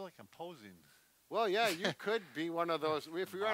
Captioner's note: laughs